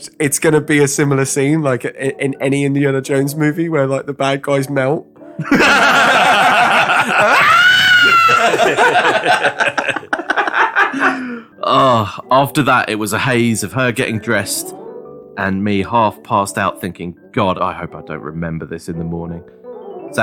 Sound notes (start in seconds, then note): 7.0 Melting Nazi screams